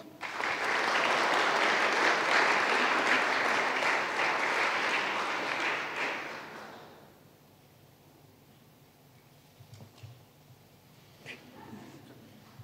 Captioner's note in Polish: oklaski